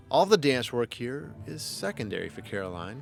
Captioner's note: voiceover